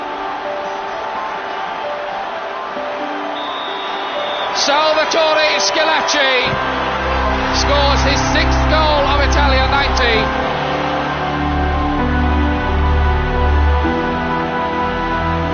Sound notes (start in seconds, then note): 3.1 whistle blows; 7.5 crowd roaring; 11.8 dramatic music playing